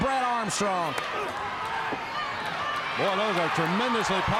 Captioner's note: crowd chatter